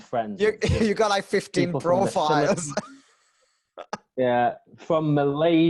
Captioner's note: laughs